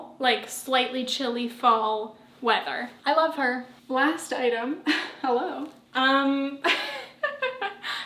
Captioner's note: giggle